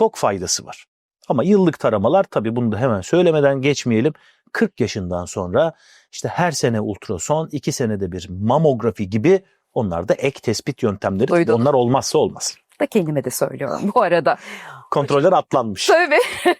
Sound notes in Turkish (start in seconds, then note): 16.1 kahkaha